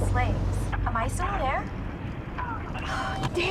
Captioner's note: static